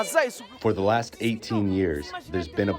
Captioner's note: through translator